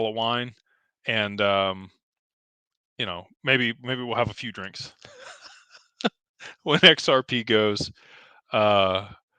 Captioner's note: laughter